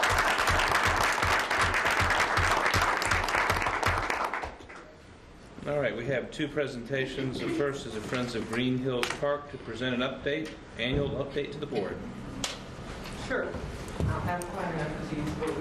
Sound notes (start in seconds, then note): 5.3 applause